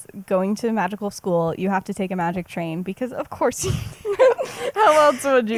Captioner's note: laughs